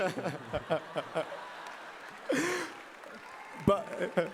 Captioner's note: applause